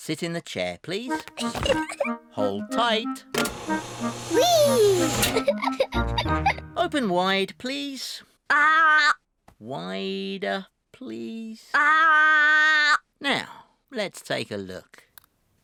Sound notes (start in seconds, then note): 1.3 giggles; 5.4 giggles